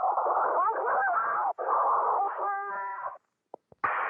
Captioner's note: screaming; static popping on radio